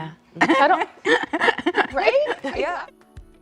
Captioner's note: laughter